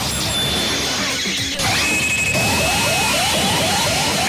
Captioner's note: horrific ear-shattering pachinko sounds